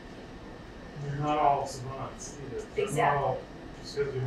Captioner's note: speaking away from mic